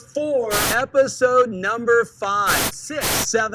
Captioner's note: static; static